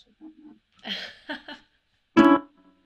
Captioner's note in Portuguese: risos